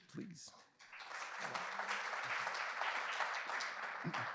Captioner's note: applause